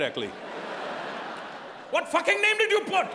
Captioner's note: audience laughing